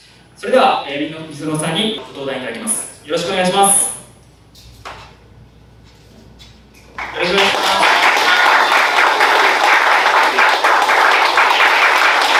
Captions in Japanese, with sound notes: それではmisonoさんにご登壇いただきます。宜しくお願いします。 （拍手）